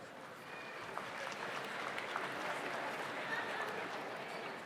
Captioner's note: audience applauds